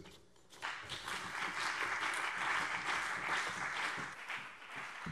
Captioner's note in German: Beifall BÜNDNIS 90/DIE GRÜNEN und CDU